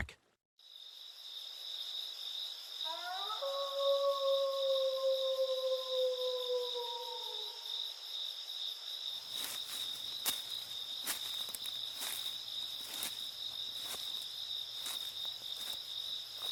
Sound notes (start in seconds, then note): 1.0 crickets chirping; 2.8 wolf howling; 9.2 leaves rustling